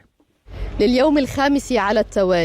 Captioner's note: speaking Arabic